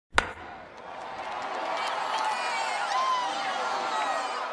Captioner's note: bat crack; crowd noise